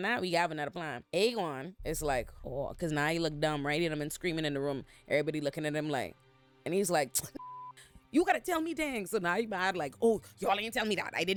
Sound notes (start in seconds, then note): 7.4 beep